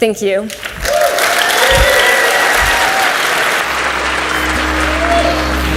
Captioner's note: audience cheers and applauds